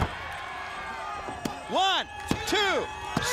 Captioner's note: crowd cheering